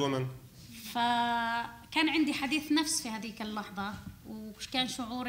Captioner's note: speaking arabic